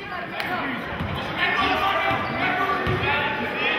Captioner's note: yelling